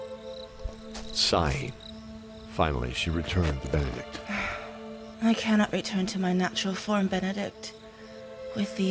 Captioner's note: sigh